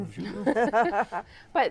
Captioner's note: laughter